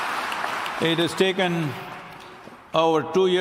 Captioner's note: applause